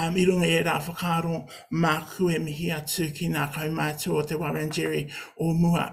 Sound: speaking in native language

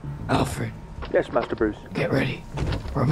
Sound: Alfred in comms; vehicle doors close

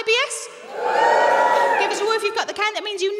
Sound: audience members whoop

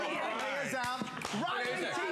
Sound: applause

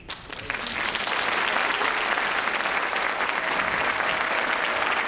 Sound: audience applauding

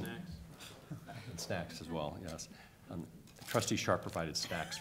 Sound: laughter

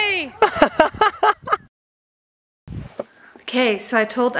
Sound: laughs

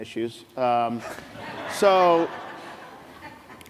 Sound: laughs

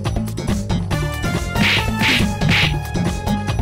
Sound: beating sound

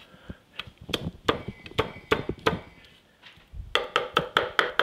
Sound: knife chops

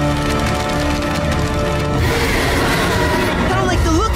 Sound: screeching

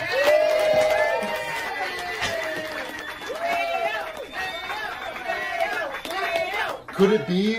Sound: applause

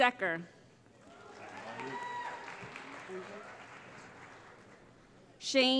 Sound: cheering

